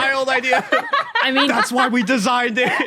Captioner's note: laughs heartily